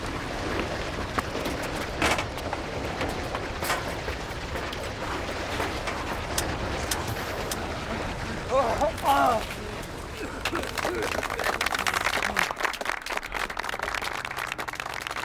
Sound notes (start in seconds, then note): 8.2 moaning, Coughing; 9.9 applause